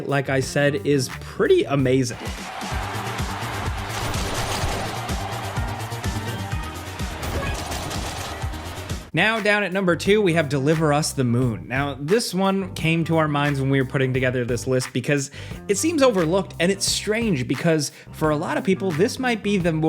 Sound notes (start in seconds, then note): 2.1 dramatic music; 3.8 gunshots